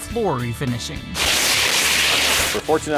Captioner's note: ripping plastic off carpet